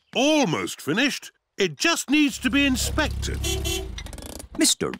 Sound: horn beeps

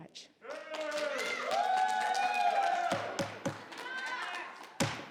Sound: audience cheering

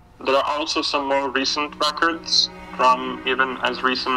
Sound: on phone

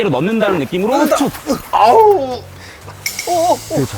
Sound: moaning

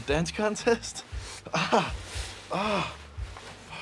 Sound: groaning

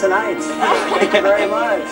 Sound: laughter

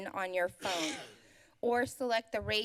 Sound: coughs

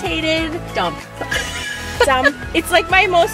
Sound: laughs

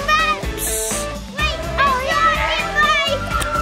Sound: everyone cheering

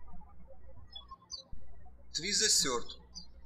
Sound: birds chirping

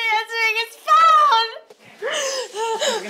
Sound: sobs

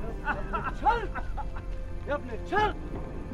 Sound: crying and coughing

